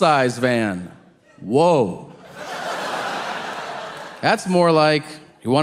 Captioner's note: audience laughing